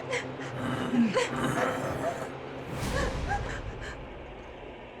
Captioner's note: Sadie coughing; leprechaun grunting